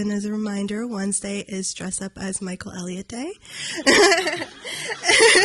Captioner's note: audience laughing; laughs